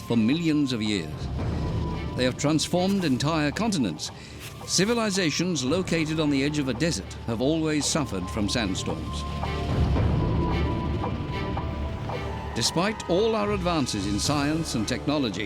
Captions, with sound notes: for millions of years. They have transformed entire continents. Civilizations located on the edge of a desert have always suffered from sandstorms. [howling wind] Despite all our advances in science and technology,